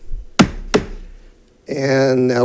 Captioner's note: gavel bangs